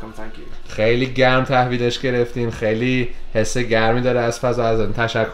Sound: speaking Persian

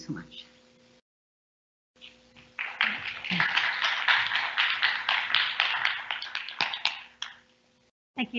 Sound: applause

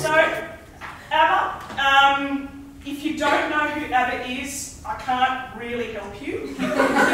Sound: lecturing; audience laughs

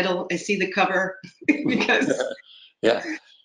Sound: laughs

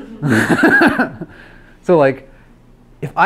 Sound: laughs

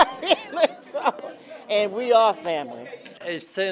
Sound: laugh

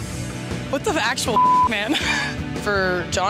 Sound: beep

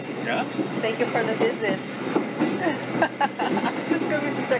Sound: laughs

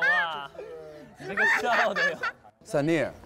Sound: haha

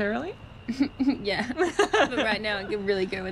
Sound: Kerri laughing

